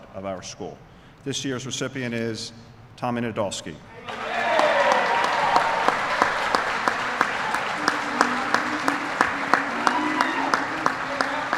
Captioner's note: applause